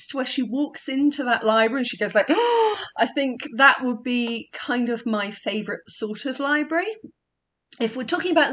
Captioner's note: gasp